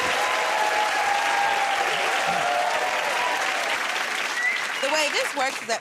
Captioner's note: cheers and applause